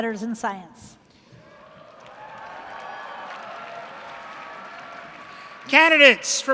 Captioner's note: cheers